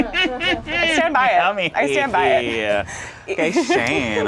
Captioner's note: laughs; overlapping chattering